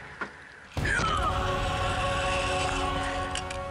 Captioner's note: grunting